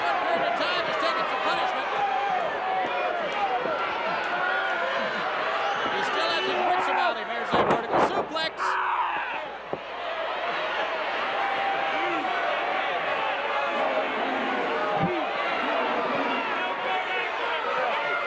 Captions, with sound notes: He still hasn't ended it here. Vertical suplex. Two, three. (audience indistinct yelling)